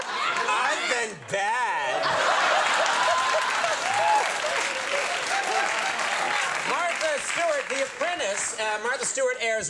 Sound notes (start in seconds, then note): 2.4 applause